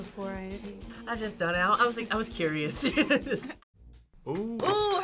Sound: laughs

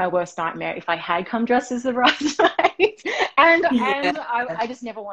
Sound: laughing

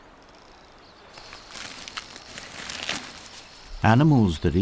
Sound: birds chirping; crunching

